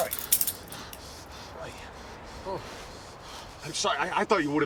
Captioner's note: gasping breaths